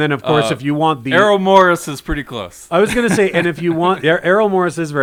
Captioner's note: laughs